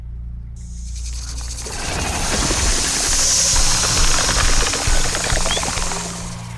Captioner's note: snake hisses; snake rattles